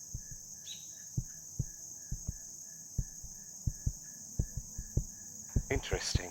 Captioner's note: heartbeat